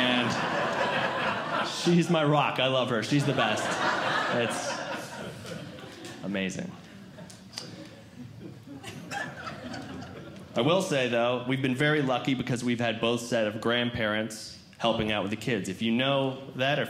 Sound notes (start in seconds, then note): 0.0 audience Laughing